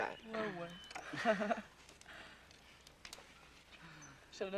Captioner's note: rires